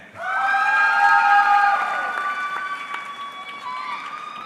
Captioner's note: audience cheering